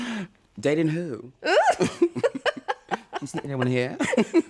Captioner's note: laughter